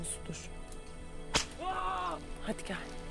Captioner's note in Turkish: Kırbaç ve bağırma sesleri